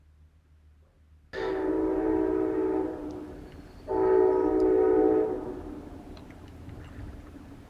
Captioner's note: train whistle